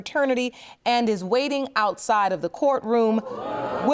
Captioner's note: audience gasps